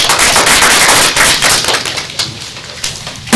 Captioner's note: applause